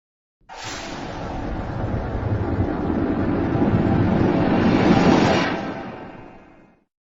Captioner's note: suspense Sound in -12 pitch